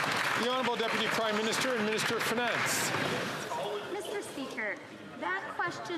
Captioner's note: some Applause